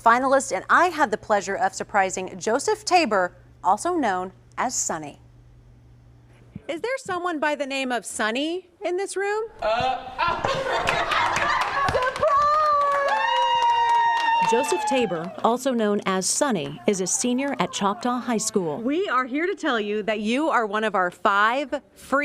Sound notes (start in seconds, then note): 15.1 applause